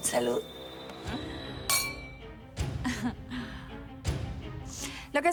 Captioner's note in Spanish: Sonido de las copas